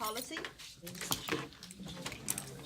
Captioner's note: students murmur